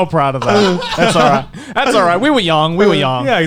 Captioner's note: laughing